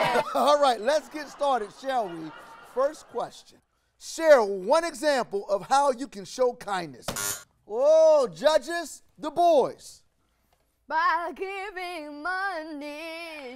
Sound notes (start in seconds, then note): 7.1 buzzer rings